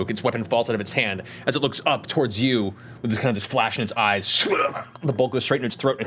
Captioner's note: gurgle